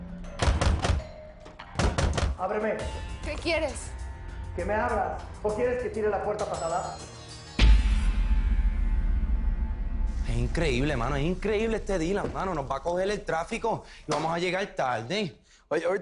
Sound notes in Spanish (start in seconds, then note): 1.7 Toques fuertes en la puerta